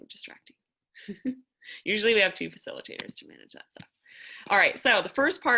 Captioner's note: laughter